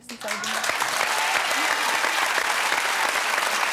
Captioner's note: audience cheering